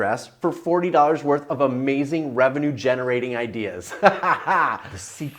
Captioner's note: laughs